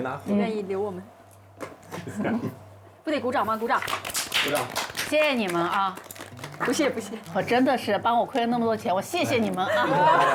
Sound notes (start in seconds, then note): 3.8 clapping